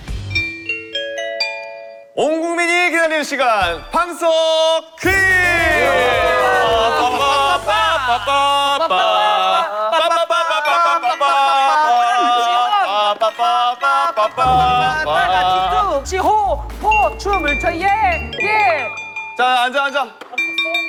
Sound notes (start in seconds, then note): 5.6 applause